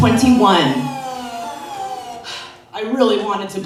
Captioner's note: sirens